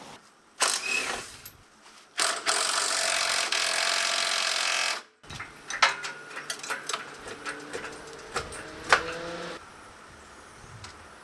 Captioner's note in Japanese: 作業音